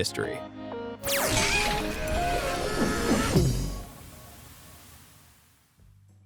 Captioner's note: lazer whooshes; upbeat music